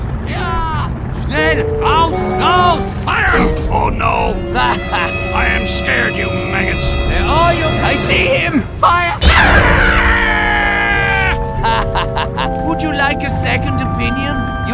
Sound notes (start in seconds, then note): 0.3 The Panther A screams; 3.3 The Panther A groans; 4.1 The Panther A chuckles; 9.3 The M36 GMC screams; 10.5 The Pz.IV F2 laughs